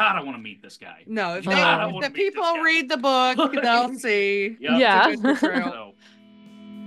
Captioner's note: laughs